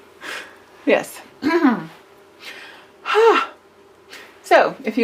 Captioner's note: clears throat